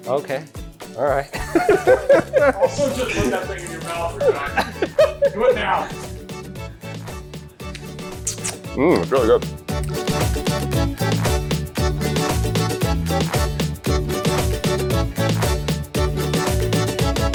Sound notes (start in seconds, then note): 1.3 both laugh; 10.2 upbeat instrumental music